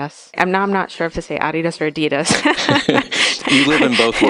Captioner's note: laughs